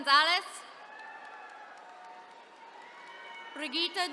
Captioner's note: attendees cheering